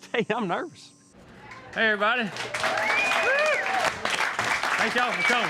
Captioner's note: applause